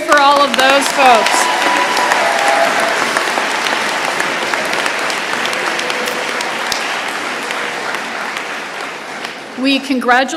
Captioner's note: applause and cheers